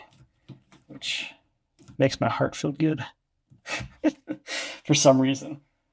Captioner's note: laughs